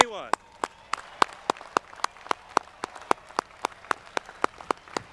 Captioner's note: audience clapping